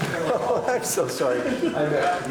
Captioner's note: chuckles